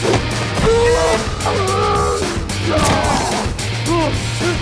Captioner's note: air whooshing; blows thudding; fighters grunting